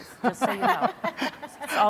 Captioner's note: laughing